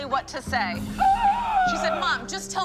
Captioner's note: gasp